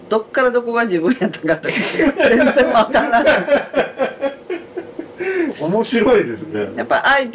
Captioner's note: laughs